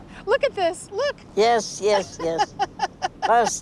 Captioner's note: laughing